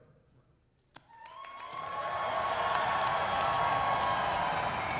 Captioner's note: cheering